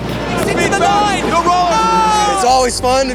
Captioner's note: indistinct cheering